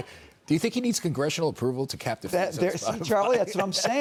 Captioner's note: laughter